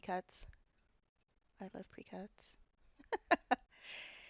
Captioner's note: laughing